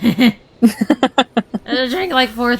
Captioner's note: laughs